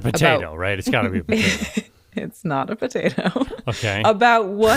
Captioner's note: laughs